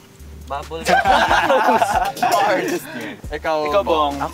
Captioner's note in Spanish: campistas riendo